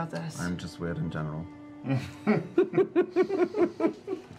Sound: laughter

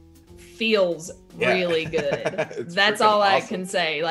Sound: laugh

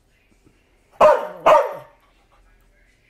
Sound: barking

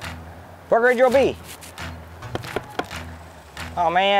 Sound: oar knocks

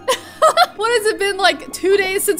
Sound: laughs

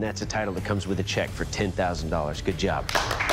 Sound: applause

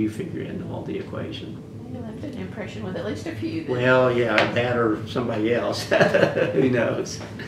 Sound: laughs

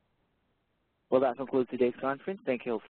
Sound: voiceover

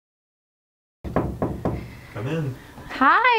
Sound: knocking

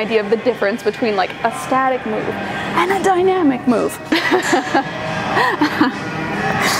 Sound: laughs

